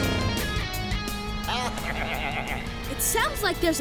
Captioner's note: bleating